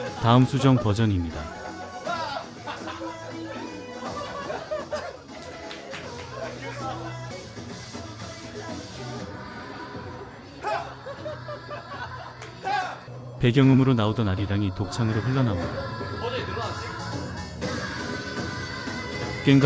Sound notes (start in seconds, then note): 10.5 laughs